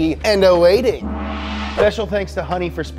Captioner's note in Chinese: 锣嗡嗡声